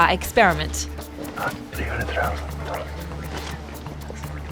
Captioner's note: whispers